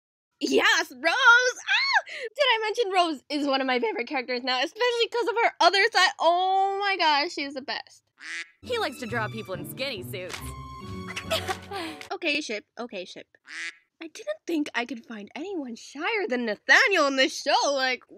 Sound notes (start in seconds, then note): 8.2 quack; 11.1 laughs; 13.4 quack